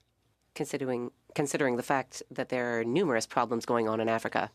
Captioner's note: speaking French